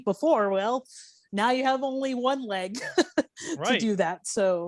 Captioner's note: laughing